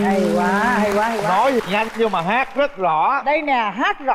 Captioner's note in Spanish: Aplaudir